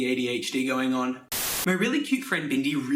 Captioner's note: Static